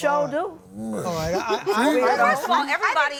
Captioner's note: groans